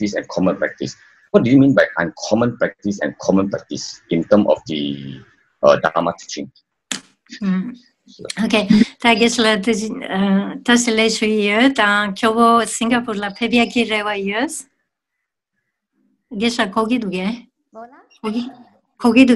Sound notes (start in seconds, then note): 10.6 speaks in foreign language